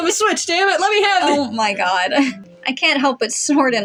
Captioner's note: chuckle